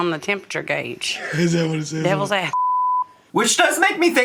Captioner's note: beep